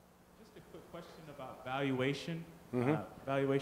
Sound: voiceover

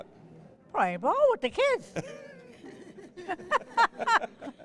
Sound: laughs

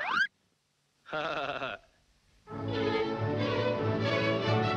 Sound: laughs

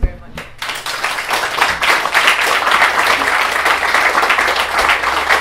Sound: applause

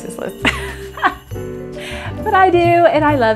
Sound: laughs

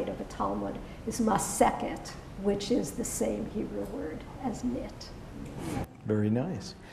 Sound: hebrew

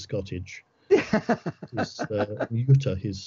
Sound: laughs

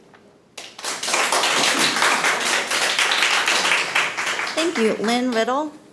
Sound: people clapping

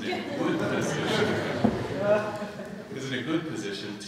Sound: laughter

